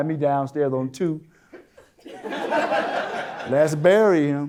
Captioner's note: audience Laughter